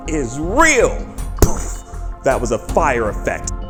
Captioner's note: poof